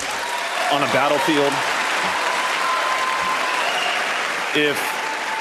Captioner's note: crowd cheering